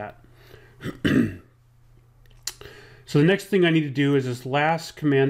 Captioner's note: clears throat